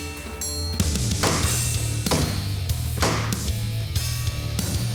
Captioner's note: chopping wood